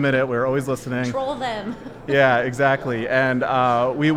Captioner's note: laughs